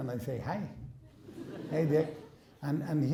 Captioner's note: laughing